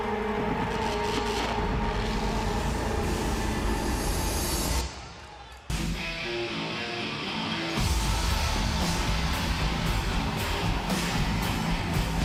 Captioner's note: crowd cheering